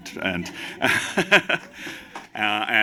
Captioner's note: laughter, applause